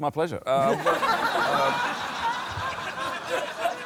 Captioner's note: laughter